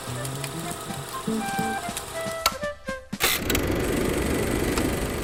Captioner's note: projector clicking; upbeat music